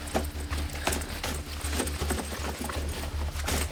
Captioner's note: loud rifling